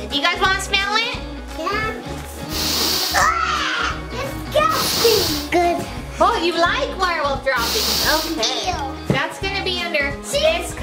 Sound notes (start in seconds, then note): 3.4 retching; 4.6 sniffs; 7.6 sniffs